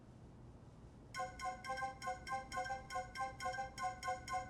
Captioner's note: phone ringing